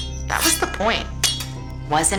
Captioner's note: knives clattering